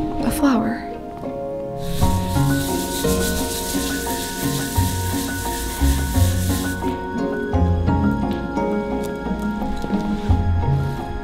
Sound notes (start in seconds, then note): 1.8 scrubbing